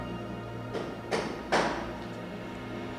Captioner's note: knocking on door